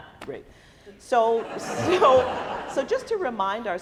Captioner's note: laughing